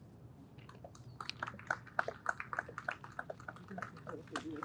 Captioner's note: audience applauds